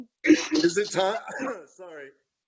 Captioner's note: coughing